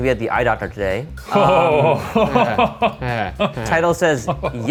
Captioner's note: laughs